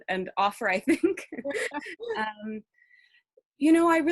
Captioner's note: laughs